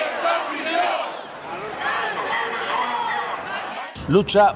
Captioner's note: shouting: The solution—bankers to prison